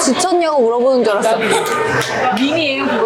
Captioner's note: hahaha